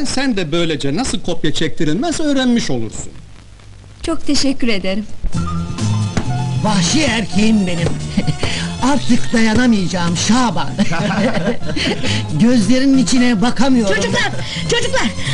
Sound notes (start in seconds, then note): 5.3 upbeat, original movie music starts in the background; 10.5 laughing